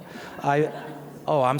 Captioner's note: audience laughs